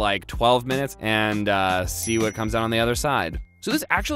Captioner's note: dings